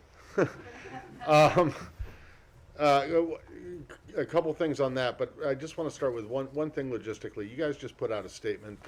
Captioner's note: laughter